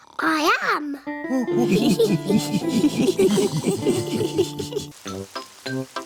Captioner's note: oinks; all laugh